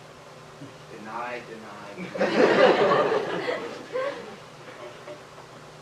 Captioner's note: laughter